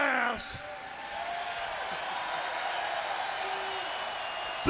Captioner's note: crowd cheers